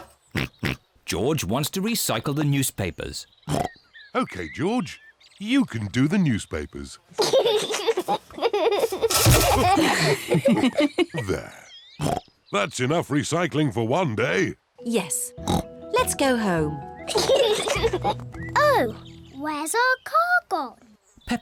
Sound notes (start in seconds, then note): 0.3 snorts; 7.2 giggles; 12.0 snorts; 17.0 kids giggle